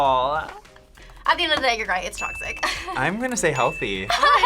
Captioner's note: laughs